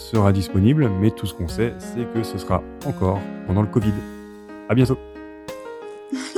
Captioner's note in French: rires